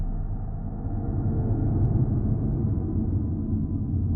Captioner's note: car engine